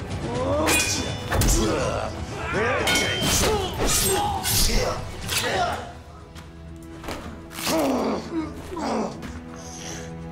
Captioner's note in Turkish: Dövüş Sesleri